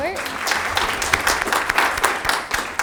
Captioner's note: audience clapping hands